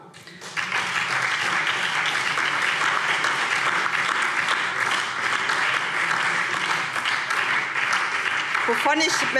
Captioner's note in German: Beifall SPD und DIE LINKE